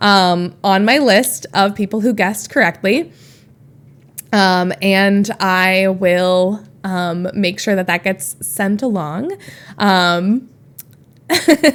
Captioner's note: Emma laughs